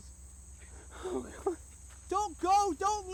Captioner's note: whimpers